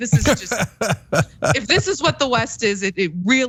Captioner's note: laugh